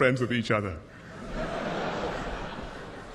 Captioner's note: laughter